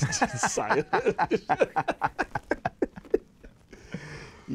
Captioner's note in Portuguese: Risadas